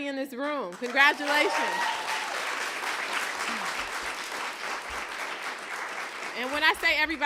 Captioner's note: applause